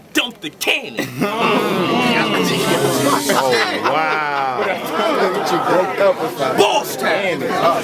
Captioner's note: crowd Reaction